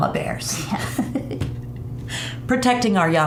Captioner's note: both women giggling